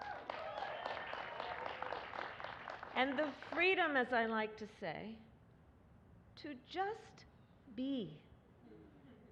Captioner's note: applause